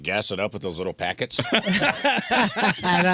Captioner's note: laughter